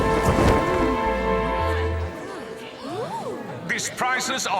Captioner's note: oohs and ahs